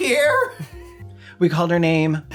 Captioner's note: gay wheezing